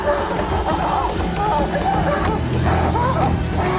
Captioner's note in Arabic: زئير; لهث